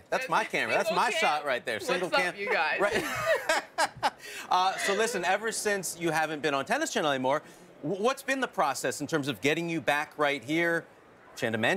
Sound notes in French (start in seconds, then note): 2.8 laughter